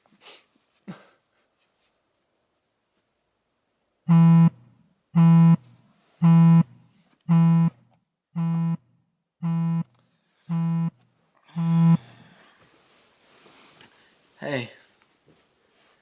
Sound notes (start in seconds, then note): 3.7 phone buzzing